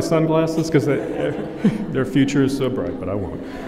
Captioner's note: laughter